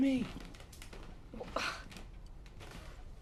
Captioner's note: VANESSA SlGHS